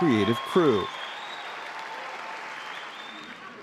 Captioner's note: cheers and applause